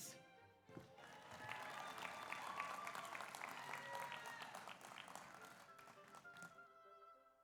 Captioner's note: audience applauds; audience cheers